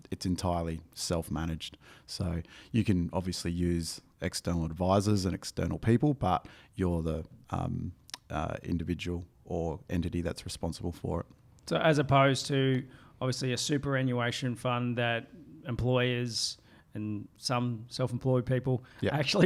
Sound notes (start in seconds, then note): none